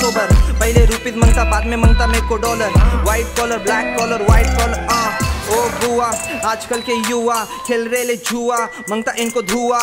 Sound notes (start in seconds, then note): 4.9 aah